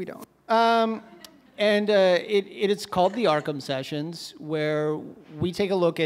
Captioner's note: audience – scattered laughs